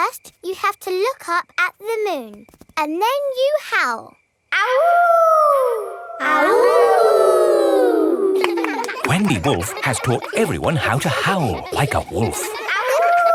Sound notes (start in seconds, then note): 4.8 howling; 6.6 kids howling